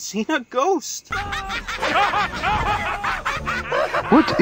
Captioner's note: everyone laughs